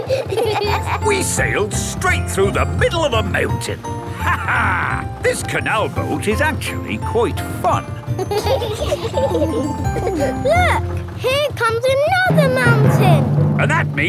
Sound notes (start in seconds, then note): 5.0 laughs; 7.9 kids giggling